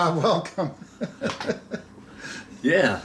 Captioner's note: laughing